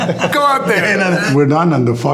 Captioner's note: both laughing